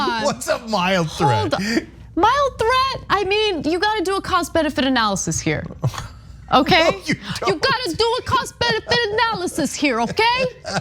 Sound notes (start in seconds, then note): 6.6 laugh